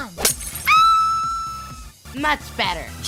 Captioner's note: scream